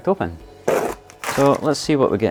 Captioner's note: paper tears